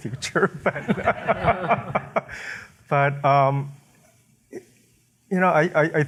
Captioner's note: laughter